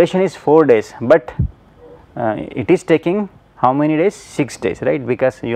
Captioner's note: hvac